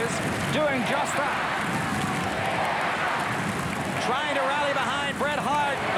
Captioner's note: applause